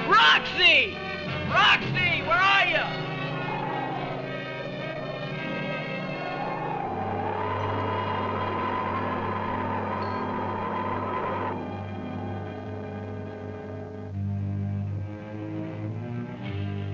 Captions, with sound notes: Roxy, Roxy, where are you? (wind blowing) (gentle instrumental music)